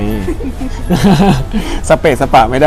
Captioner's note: laughs